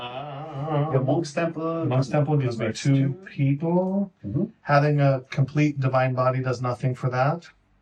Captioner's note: laughs